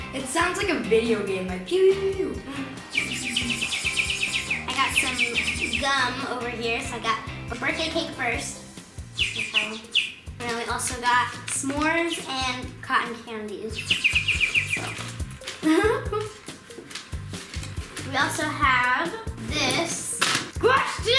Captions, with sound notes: - It sounds like a video game, like pew pew pew. (bird whistling) - I got some gum over here, so I got birthday cake first. You can try one. And then I also got s'mores and cotton candy. (bird whistling) We also have this, gosh dang it.